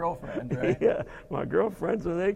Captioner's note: laughing